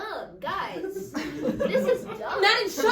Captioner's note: audience laughs